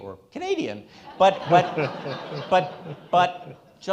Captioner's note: all laughing